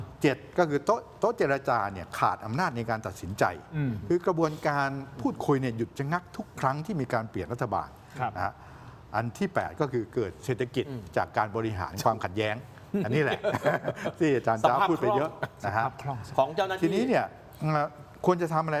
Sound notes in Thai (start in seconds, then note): 13.0 เสียงหัวเราะ